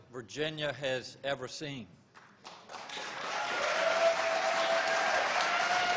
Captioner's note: applause